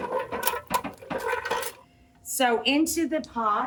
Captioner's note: metal masher creaks